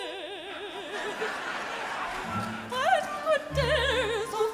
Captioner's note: audience laughs